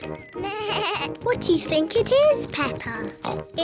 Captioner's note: bleats; oinks